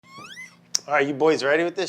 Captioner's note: object squeaking